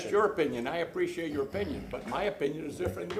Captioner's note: sounding gavel